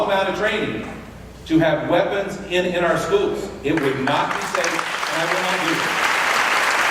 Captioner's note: clapping